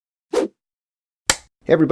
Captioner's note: whoosh, film slate clapping sound